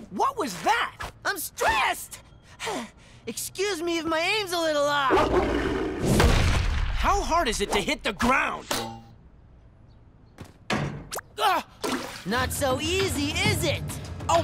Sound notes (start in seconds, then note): 5.2 growls; 11.8 splash!